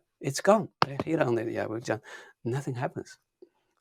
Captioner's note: fist thumping; speaking in Chinese